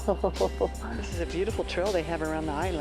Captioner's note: laughs